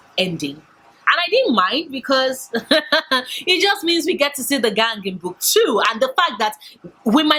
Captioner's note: laughs